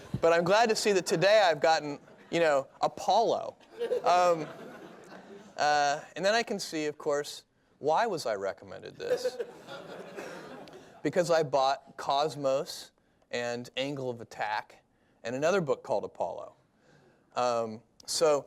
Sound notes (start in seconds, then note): 3.6 laughter